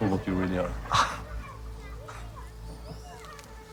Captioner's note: chuckling